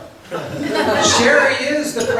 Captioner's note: laughs